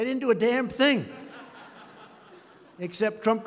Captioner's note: laughter